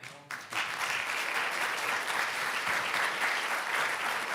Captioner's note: audience clapping